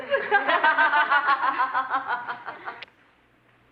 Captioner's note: laughing